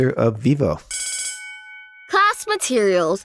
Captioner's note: school bell rings